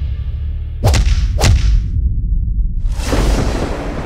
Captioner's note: thudding